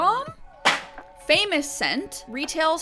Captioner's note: box slamming